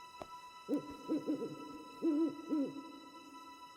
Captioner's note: owl hooting